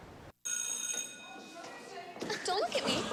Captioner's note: bell rings